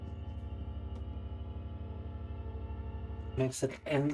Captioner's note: speaking in Russian